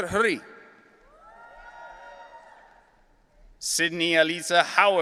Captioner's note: audience cheering